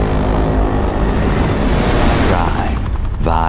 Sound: blades whir; dramatic music plays

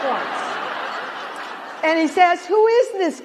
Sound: laughter

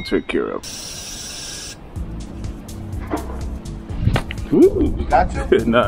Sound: spray whooshing

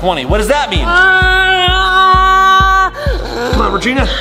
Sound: yells

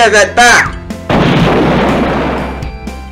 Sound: boooom!!

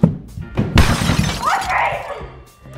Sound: crashing

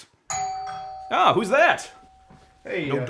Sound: doorbell rings

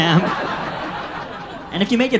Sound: audience laughs

